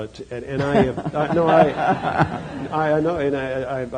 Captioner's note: laughter